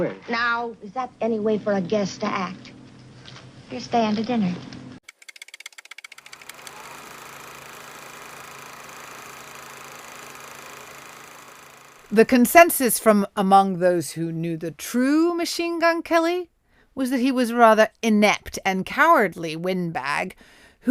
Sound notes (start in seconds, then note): 5.1 typewriter keys clacking; 7.1 projector whirring